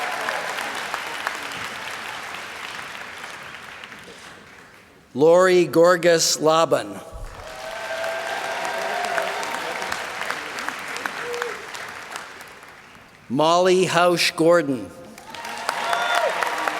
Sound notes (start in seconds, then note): 0.0 applause